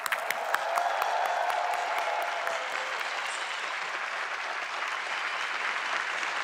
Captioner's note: applause